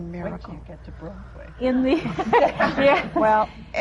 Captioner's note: laughter